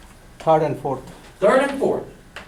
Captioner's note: voiceover